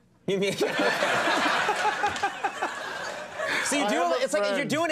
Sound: crowd laughing

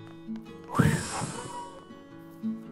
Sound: whoosh!

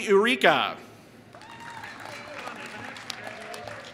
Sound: applause

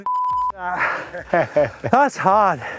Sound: breathes heavily

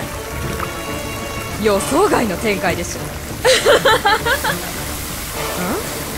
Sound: laughs

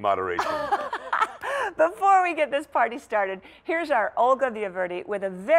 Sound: laughter

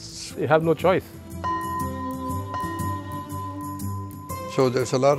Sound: bell rings

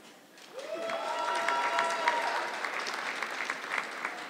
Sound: audience clapping

